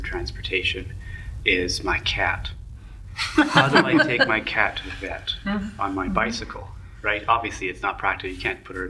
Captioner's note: laughter